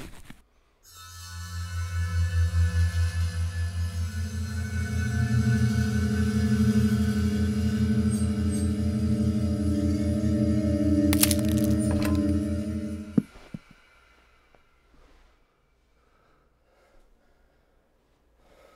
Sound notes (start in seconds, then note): 1.5 magical sound; 11.1 neck creak